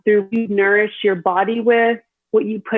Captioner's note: audio distorts